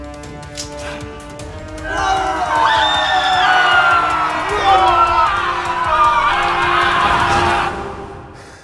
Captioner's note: the sounds of a legendary battle